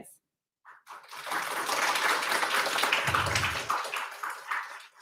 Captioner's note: audience clapping loudly